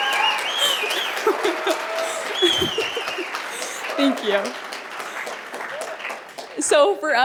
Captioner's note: cheers and applause; laughs